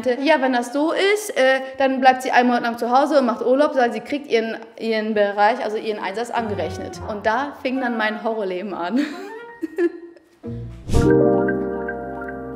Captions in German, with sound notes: "Wenn das so ist, bleibt sie einen Monat lang zu Hause, aber sie kriegt ihren Einsatz angerechnet." Und da fing dann mein Horrorleben an. (Verzweifeltes Kichern) (Verträumte Musik)